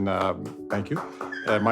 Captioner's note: applause